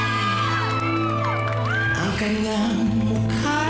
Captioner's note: scattered applause